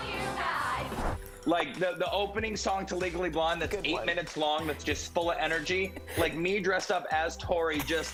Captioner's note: laughter